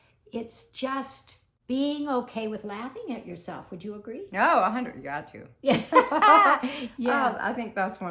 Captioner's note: laughing